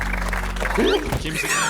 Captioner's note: kicking